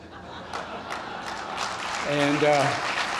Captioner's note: laughter and applause